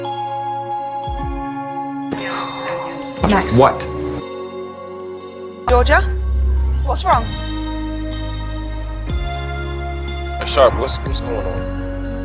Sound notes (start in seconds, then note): 2.1 Helen exhales; 7.0 voiceover; 10.7 voiceover